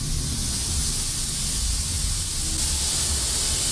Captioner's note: silbidos de vapor